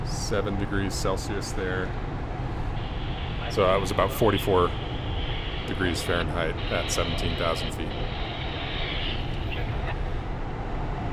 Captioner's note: radio: to 47S... checking in